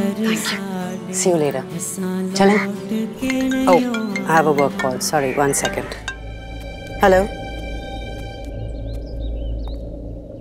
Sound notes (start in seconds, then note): 3.3 phone ringing; 8.1 birds chirping